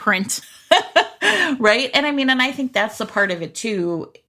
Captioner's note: laughs